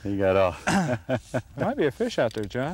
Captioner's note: laughter